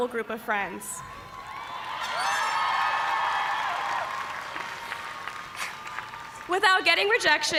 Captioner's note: cheers and applause